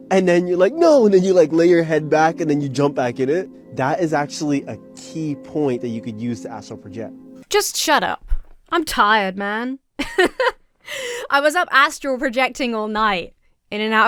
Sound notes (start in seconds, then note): 10.0 laughs